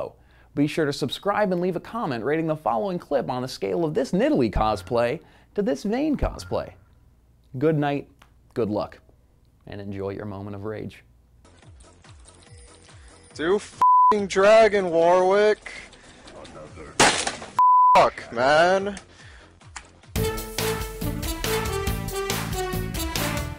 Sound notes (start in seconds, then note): 17.0 smash